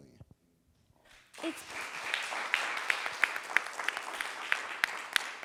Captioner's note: audience applauding